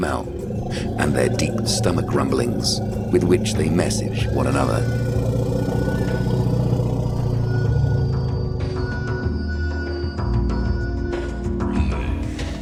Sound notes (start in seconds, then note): 4.5 deep stomach rumbling; 8.9 dramatic music